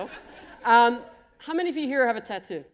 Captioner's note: laughter